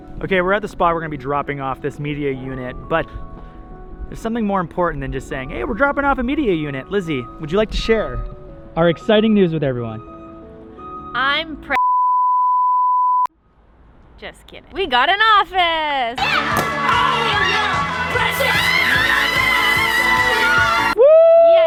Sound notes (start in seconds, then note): 11.8 loud beep; 18.0 woman cheering